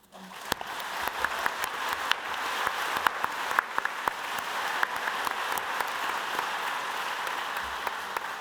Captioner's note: audience applauding